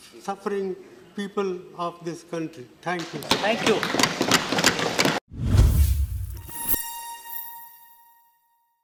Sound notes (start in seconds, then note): 3.2 applauds